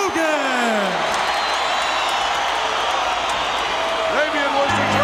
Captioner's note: audience cheering